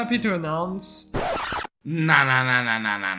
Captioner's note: record scratch sound